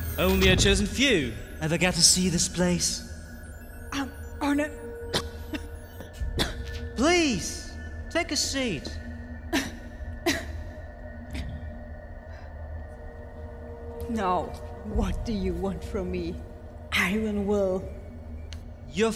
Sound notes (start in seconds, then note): 5.0 coughs